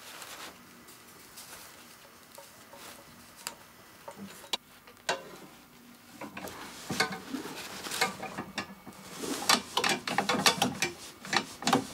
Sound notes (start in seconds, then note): 9.4 clattering